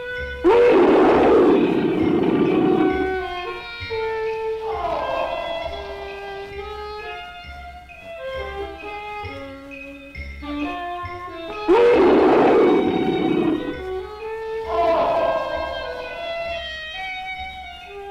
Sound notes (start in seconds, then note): 0.4 Pete roaring; 4.6 roaring; 11.3 Pete roaring; 14.6 roaring